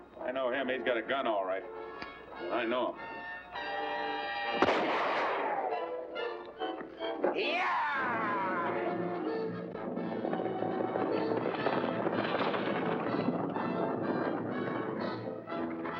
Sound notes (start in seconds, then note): 4.5 gunshot; 8.0 dramatic music; 8.8 hooves pounding; 14.2 dramatic music